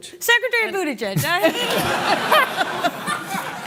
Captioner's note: laughter